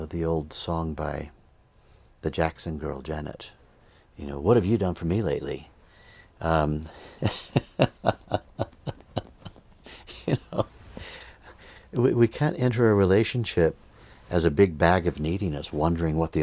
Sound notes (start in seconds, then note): 7.0 laughter